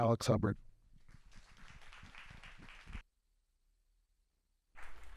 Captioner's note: clapping